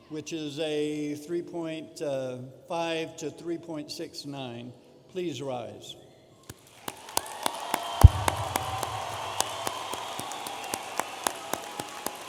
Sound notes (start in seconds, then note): 6.6 audience applauding and cheering